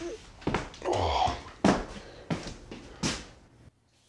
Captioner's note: Tim grunting